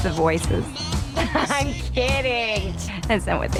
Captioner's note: laughs